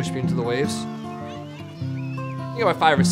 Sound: children chattering

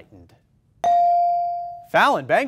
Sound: ding

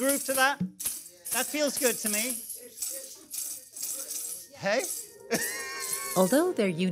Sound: laughs

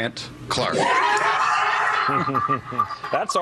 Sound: all screaming

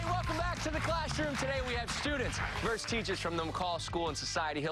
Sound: cheers and applause

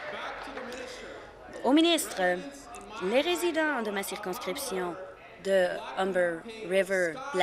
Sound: applause

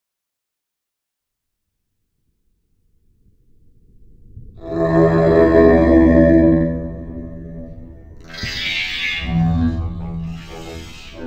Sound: sound of humming

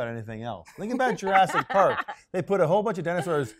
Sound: laughs

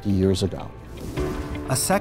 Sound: swoosh

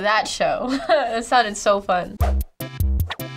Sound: laughing; quirky interlude

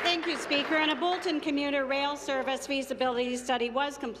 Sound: applause

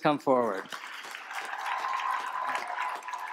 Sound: applause

